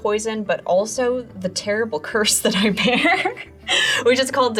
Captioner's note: laughs